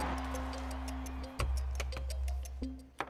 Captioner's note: crowd cheering